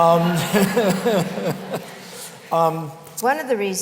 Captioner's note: laughter